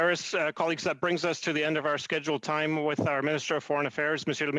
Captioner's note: speaking French